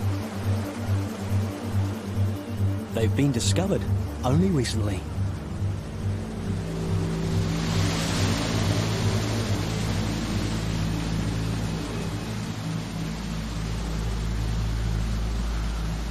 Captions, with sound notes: They've been discovered only recently. (water rushing)